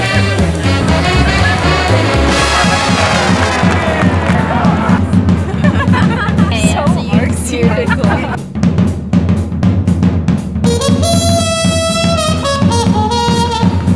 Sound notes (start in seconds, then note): 3.0 applause; 3.0 cheering; 5.3 giggling